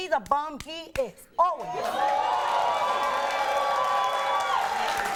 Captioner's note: audience cheers